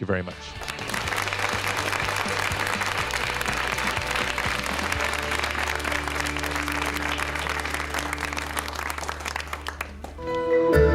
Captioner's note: audience applauds